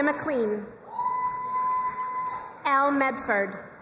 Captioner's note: crowd cheering and applauding